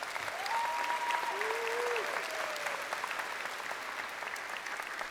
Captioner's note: crowd applauding